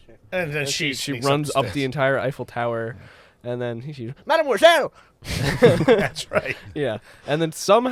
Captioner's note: laughter